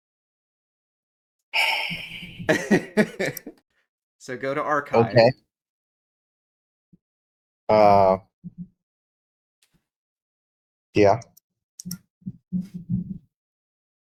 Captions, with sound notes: (sigh) (laugh) So go to archive Okay Yeah?